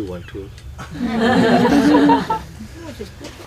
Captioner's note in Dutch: gelach